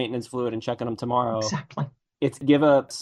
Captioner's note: laughs